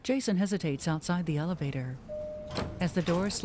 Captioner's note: elevator Bell Dings